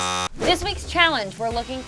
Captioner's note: buzzer